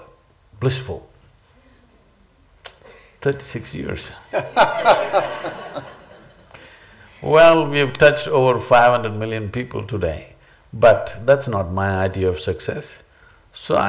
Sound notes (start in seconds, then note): 4.3 laughter